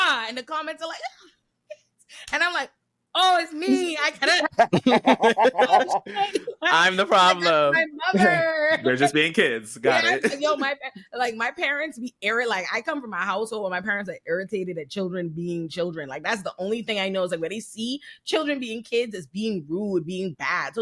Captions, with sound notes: And the comments are like-- and I'm like, oh, it's me. I kind of-- [LAUGHTER] I'm the problem. I love her. We're just being kids. Got it. Yo, my parents-- like, my parents be-- like, I come from my household where my parents are irritated at children being children. Like, that's the only thing I know is that where they see children being kids is being rude, being bad.